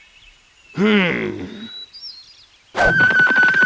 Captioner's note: Shepherd grunts determinedly; flute trilling